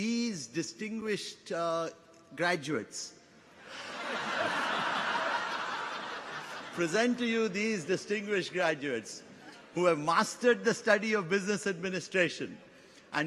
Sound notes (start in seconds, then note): 3.6 audience laughs